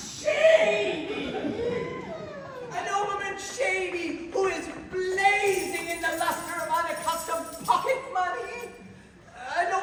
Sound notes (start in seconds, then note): 0.9 The DUCHESS whines; 5.4 aggressive shaking of coins